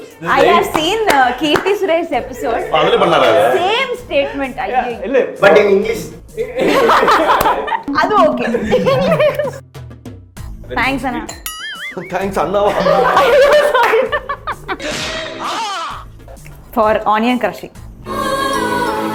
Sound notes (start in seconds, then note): 6.6 everyone laughs